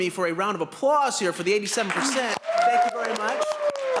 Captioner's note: applause